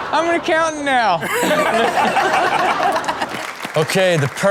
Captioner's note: laughing; applause